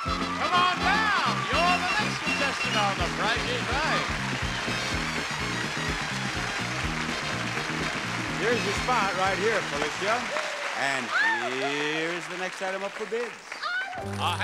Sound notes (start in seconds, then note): 4.3 crowd cheering; 5.5 upbeat theme music